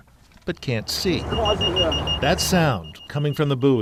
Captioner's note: buoy beeping